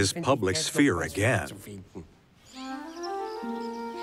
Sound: birdsong; cheerful yet subdued music

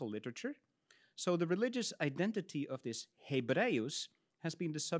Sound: speaks in Latin

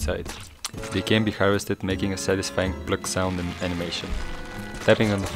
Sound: pluk

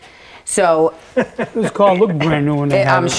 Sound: laughing

